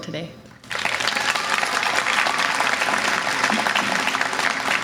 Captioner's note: audience applause